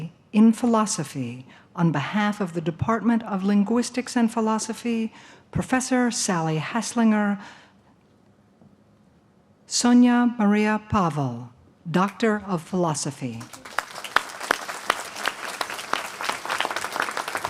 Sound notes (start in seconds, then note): 13.3 applause